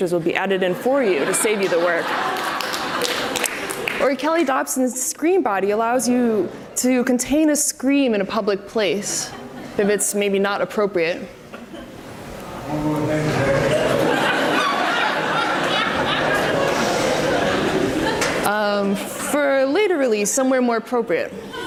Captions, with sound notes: will be added in for you to save you the work. (audience applauds) Or Kelly Dobson's Scream Body allows you to contain a scream in a public place if it's maybe not appropriate. (audience laughs) For later release somewhere more appropriate.